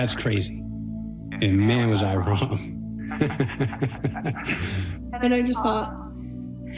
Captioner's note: laughs